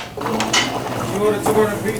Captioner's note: foamer gurgling; kitchen crew chattering